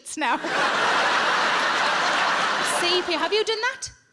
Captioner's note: audience laughing